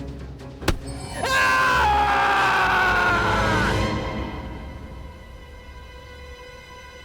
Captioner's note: hand thuds; Aladdin screams